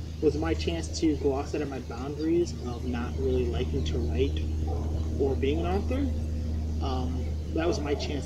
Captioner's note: dog barks